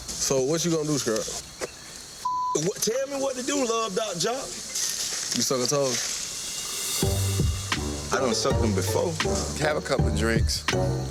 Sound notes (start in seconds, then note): 2.2 beep; 6.4 moody instrumental music